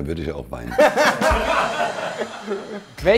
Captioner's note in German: Gelächter